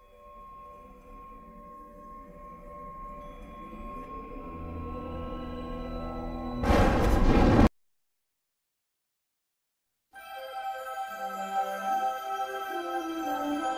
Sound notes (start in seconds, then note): 0.0 mysterious music playing; 6.6 thunders rumble; 10.2 wondrous fanfare playing